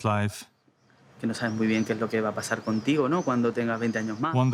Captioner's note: speaking Spanish